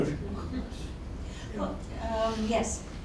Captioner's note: laughs